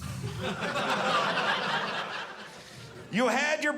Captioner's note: audience laughing